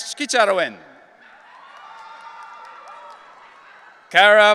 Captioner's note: audience cheering